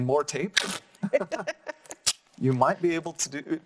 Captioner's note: laughing